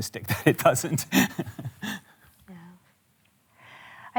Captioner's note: chuckles